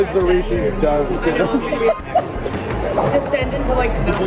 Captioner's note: laughs